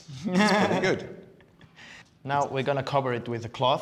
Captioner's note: laughs